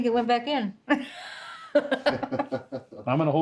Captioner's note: laughter